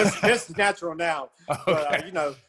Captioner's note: laugh